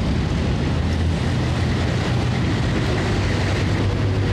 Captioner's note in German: Straßenlärm